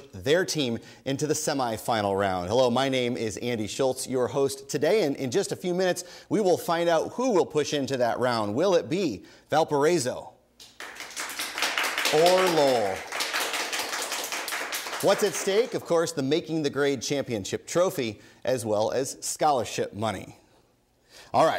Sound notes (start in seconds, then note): 10.8 audience applause